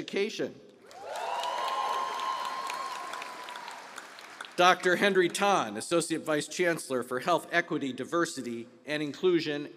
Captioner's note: applause